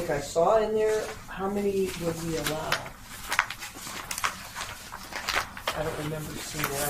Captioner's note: papers shuffling